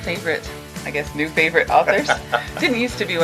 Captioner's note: laughing